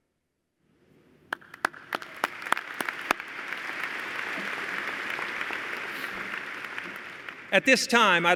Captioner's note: applause